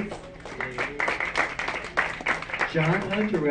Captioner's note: audience clapping